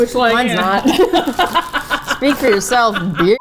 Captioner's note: both laugh